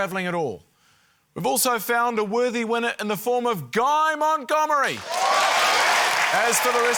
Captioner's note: cheering, applause